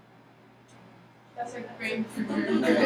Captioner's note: laughing